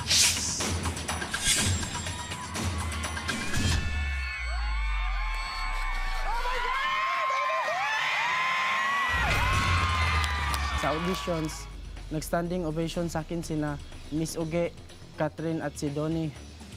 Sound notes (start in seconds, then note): 0.0 stirring music playing; 3.6 music becomes suspenseful; 4.9 overlapping screaming; 9.4 whooping, applause